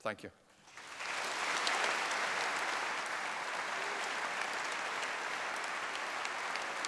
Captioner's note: applause